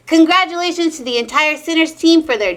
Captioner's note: none